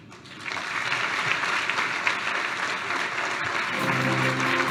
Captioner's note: applause